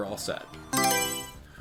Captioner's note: Mario Selection Sound